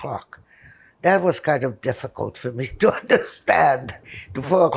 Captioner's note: laughing